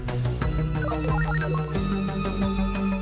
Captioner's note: computer beeps